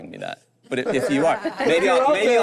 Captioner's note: group laughs